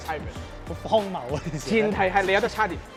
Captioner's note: laughs